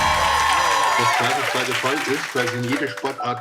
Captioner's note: cheers and applause; speaking German